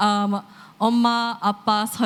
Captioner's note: korean